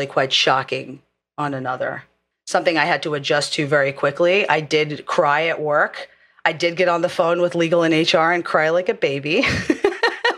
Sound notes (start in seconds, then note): 9.5 laugh